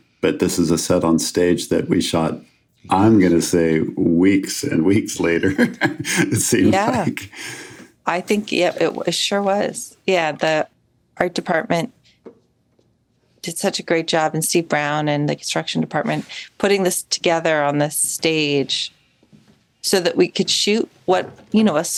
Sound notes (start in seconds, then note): 5.3 chuckles